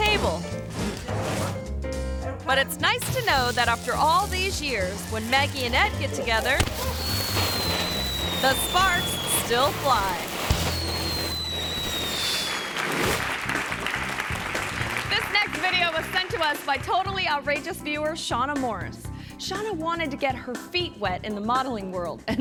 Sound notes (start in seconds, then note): 10.4 firecracker hissing; 12.1 audience applauds